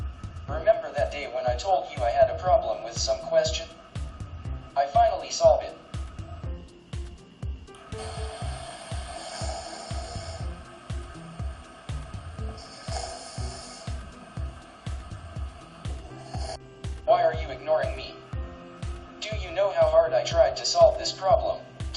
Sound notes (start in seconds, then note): 7.9 snoring sound